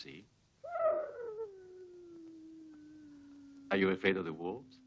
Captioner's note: wolf howling